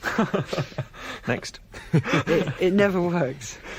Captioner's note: laughter